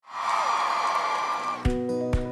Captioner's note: sound of crowd cheers